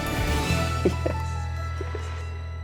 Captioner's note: laughs; bright music